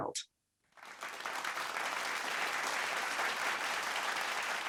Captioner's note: people clapping